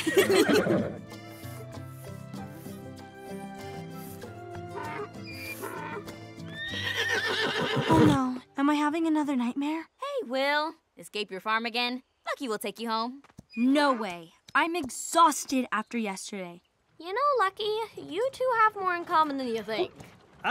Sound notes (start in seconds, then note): 0.3 whinny; 4.5 hee-haw; 6.4 whinny